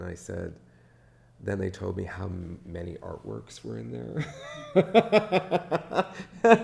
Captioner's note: laughs